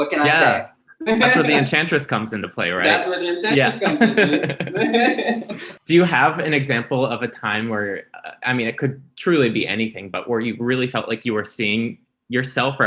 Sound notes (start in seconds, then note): 0.0 laughs; 3.5 both laughing